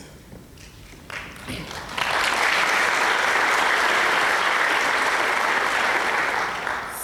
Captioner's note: applause